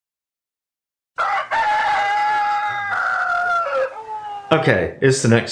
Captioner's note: rooster crowing